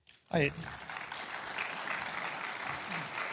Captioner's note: applause